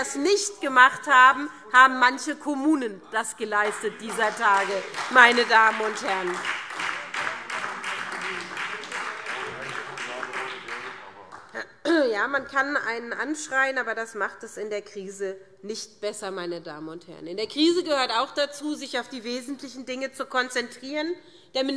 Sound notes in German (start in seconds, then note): 6.3 Beifall SPD